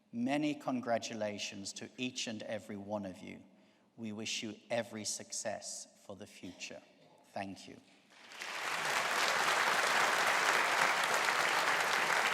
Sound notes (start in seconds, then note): 8.1 audience applauding